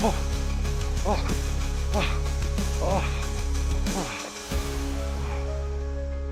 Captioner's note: dramatic music; Ron panting